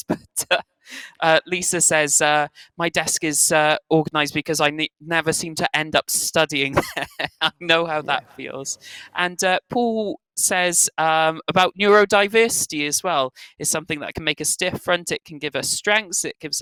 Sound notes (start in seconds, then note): 6.7 laughs